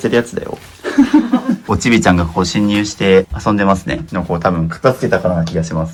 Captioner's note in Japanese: 笑い